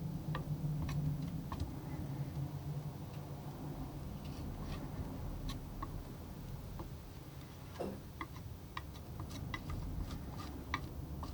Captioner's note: tapping